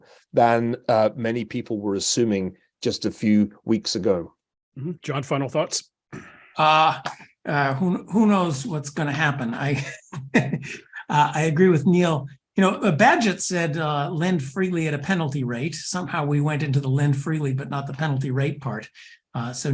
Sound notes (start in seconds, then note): 10.4 laugh